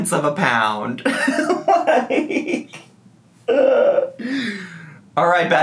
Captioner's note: man giggling